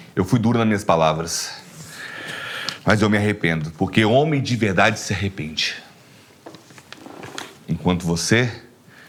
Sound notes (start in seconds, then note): 1.7 inhales